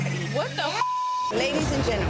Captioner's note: beep